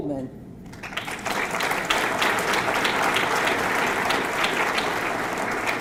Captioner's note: audience clapping